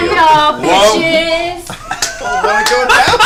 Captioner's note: laughs